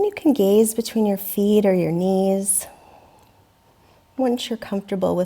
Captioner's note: deeply inhaling